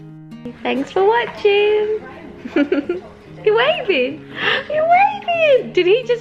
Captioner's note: chuckles